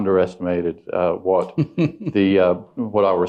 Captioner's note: chuckles